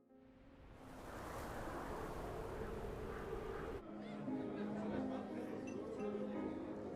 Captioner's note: wind humming; soft piano music